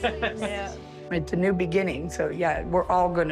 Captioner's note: laughing